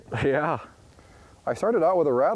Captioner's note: laughs